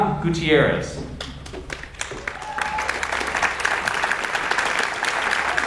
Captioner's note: audience applauds